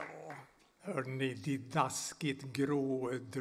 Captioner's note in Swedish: applåder